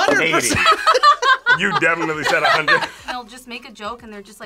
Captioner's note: laughs